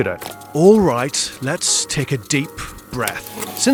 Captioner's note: voiceover